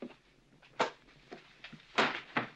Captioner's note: smack